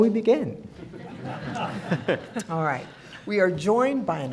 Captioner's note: all laughing